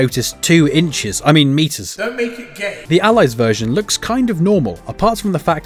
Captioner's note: meme with reverb